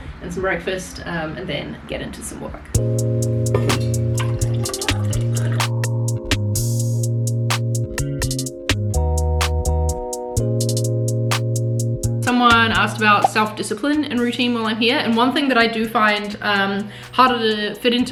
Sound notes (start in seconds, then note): 2.8 lively music; 4.2 coffee pouring